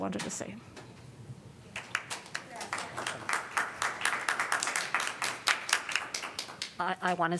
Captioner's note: applause